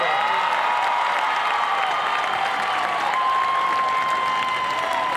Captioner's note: crowd cheers